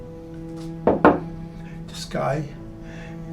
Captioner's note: glass thuds